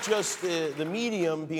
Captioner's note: cheers and applause